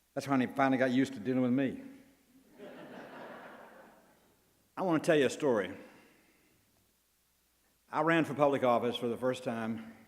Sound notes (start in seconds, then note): 2.5 crowd laughs